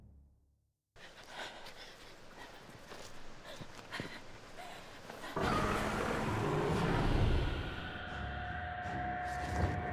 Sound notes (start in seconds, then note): 5.4 dragon growls